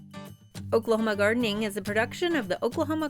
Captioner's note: voiceover